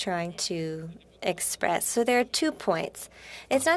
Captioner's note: speaking French